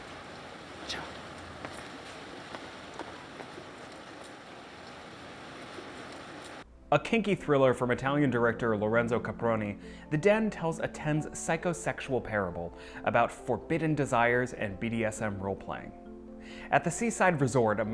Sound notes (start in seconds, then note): 5.8 water flowing